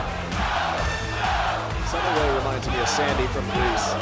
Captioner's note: crowd cheering